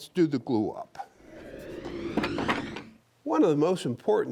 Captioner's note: wood whooshing